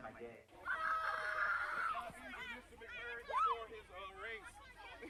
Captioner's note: kids yelling